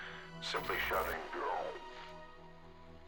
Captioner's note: audio distorts